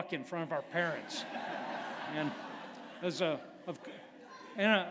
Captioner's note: laughter